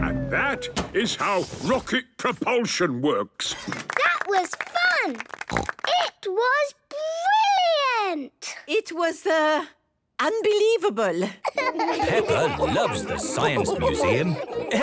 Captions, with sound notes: And that is how rocket propulsion works. - (applause) - That was fun! - It was brilliant! - It was, er... ...unbelievable! - Peppa loves the Science Museum.